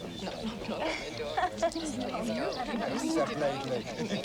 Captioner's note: people chattering